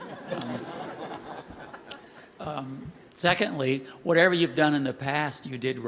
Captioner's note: laughter